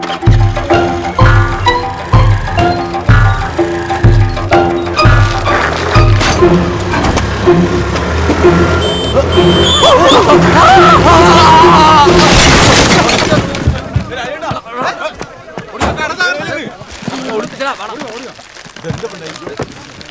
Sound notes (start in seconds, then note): 14.0 indistinct chatter